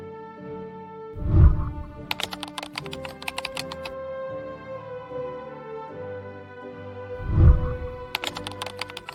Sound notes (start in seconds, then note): 1.2 whooshing sound; 1.6 keyboard clicking; 7.2 whooshing sound